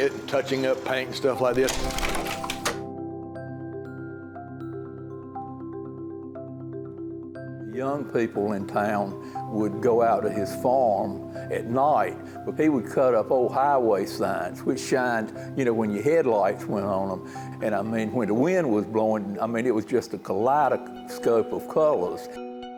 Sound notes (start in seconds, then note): 1.5 slide projector clicking; 2.3 nostalgic music